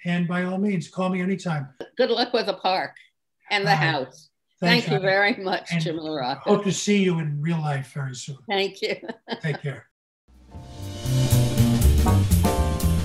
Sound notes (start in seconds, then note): 8.6 laughs; 12.6 theme Music